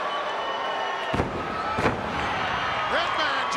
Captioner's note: Skinner thuds; foot stomps